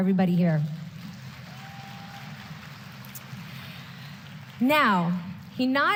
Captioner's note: applause